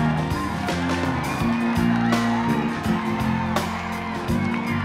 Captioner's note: clapping and cheering